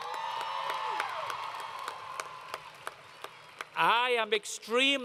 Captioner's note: crowd Cheering